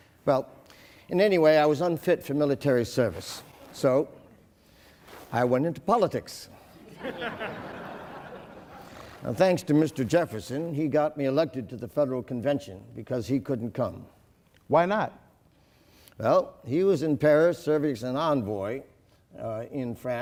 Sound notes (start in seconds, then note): 6.8 laughing